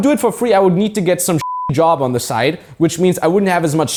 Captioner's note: beep